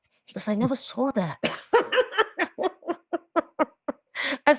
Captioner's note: laughing